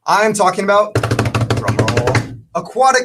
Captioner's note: drumming on table